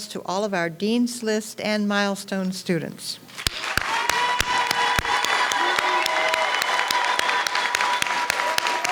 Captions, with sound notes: to all of our Dean's List and milestone students. (audience cheers and applauds)